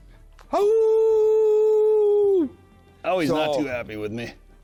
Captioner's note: howls